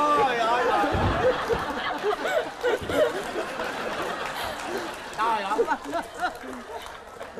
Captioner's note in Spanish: risa